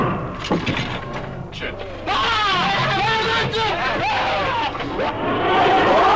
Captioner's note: men screaming and chattering